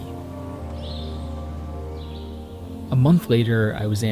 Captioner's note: birds tweeting